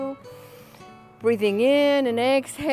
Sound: breathing deeply

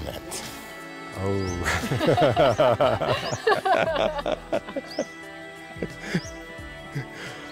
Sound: sheepish laughter

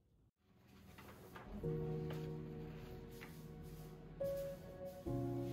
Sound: papers rustling

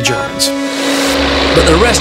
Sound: dramatic music; tank rumbling

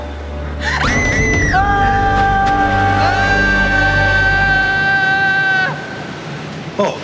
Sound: screaming

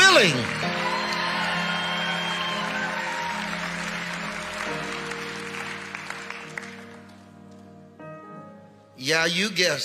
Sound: congregation applauding; piano music

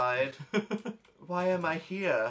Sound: laughs

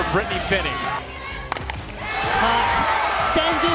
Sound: sound of ball connecting with bat

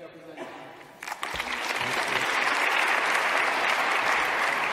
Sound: clapping

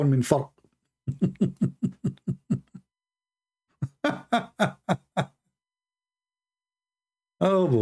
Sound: Ketawa

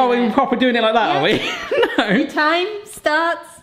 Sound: chuckles

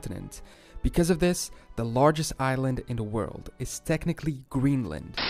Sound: static

